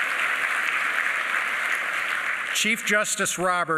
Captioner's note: applause